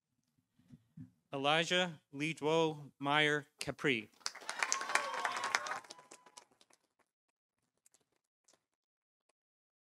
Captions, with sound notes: Elijah Ledo Meyer-Capri. -(audience cheering) -(audience applauding)